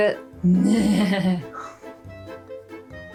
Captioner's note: makes really bad horse noise